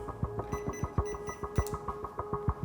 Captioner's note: beeping; ominous music